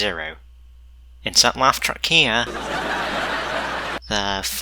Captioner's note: laughter